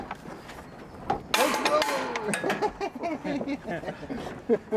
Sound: laughs

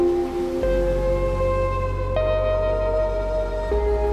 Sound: waves crashing

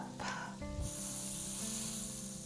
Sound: sizzling

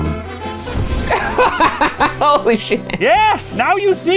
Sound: explosion; laughs

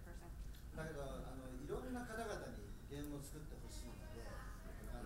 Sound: speaking in foreign language

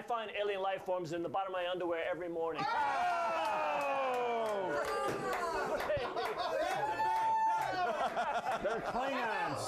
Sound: laughter

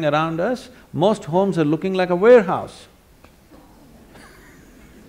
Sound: laughter

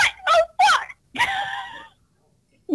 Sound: laughs

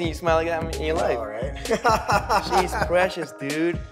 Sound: laughs

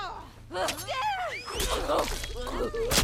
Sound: whistle

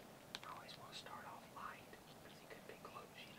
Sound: whispers

